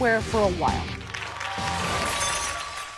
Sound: audience applauding

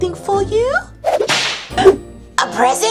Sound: whip cracks

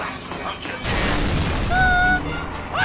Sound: cue loud crash

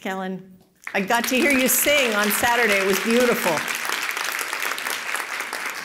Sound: applause

